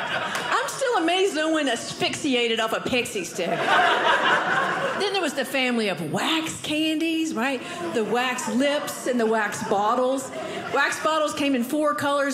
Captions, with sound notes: I'm still amazed no one asphyxiated off a Pixy Stick. (audience laughing) Then there was the family of wax candies, right? The Wax Lips, and the Wax Bottles. Wax Bottles came in four colors,